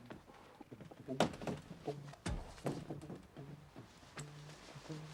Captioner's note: bersenandung